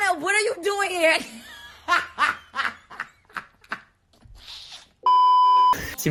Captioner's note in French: hahahahaha